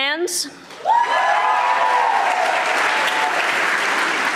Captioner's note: audience applauding